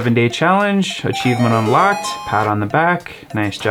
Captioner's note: notification chimes